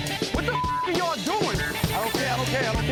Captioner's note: beep